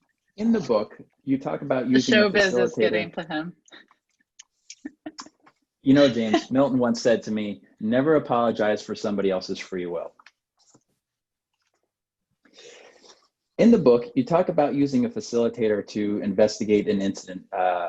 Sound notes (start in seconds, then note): 5.9 laughs